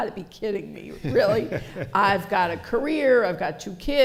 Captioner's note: laughter